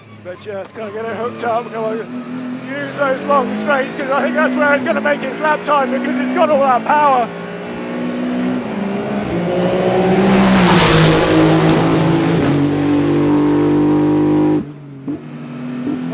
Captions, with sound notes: But you gotta get it hooked up. I use those long straights because I think that's where it's gonna make its lap time because it's got all that power. (car engine roaring) (car engine blasting)